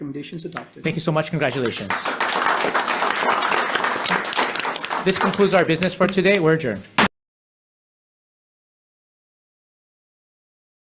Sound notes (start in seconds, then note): 4.3 audience applauds; 7.8 gavel clacks